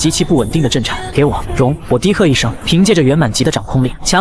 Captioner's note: buzzing sounds